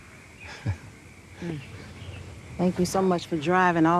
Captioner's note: chuckles softly